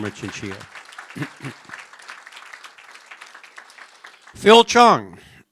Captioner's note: applause